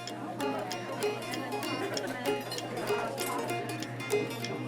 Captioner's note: restaurant noise